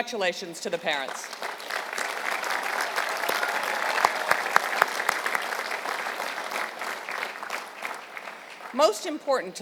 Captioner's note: applause